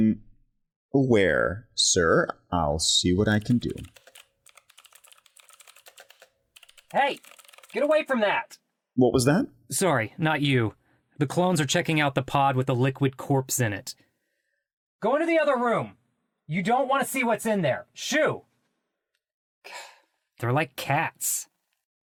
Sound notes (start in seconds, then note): 4.4 keyboard clacking